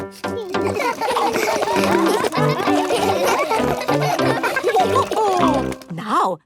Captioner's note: all laugh